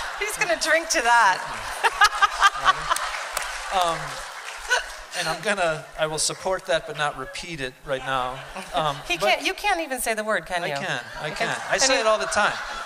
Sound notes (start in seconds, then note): 2.2 applause and laughter